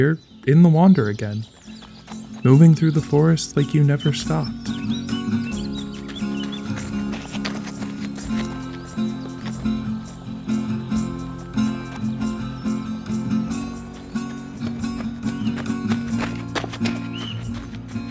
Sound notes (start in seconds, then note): 5.0 confident footsteps, moving swiftly. Birds chirping. A swell of music